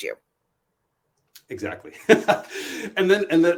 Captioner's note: laughs